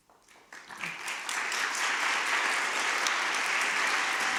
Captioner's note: audience applauding